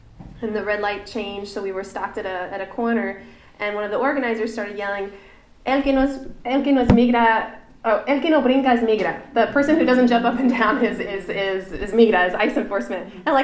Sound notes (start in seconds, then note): 5.6 speaking spanish